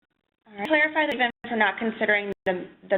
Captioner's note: voiceover